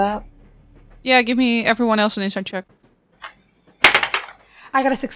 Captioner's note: dice clacks